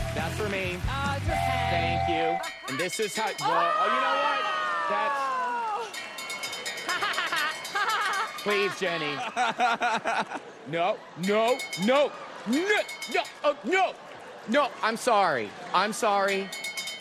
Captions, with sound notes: - That's for me. Thank you. - Ah, it's for Ken. And this is how-- oh, you know what? - That's... - ( bell ringing ) - ( laughing ) - Please, Jenny. No, no. No! No-- no! No! No. I'm sorry, I'm sorry.